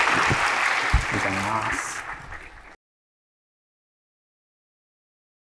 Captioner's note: applause